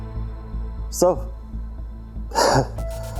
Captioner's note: scoffing